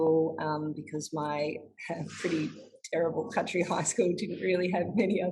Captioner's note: laughs